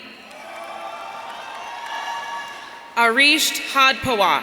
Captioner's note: audience cheering